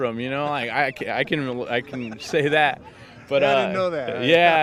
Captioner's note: laughing